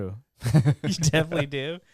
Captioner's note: laughing